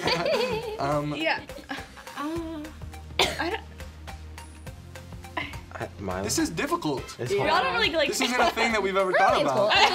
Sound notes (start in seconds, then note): 0.0 laughs; 3.1 coughs